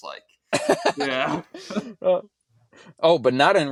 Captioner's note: both laughing